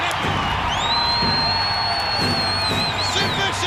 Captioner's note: crowd chants